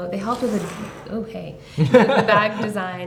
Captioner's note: laughter